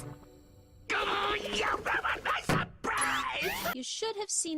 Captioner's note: frustrated grunt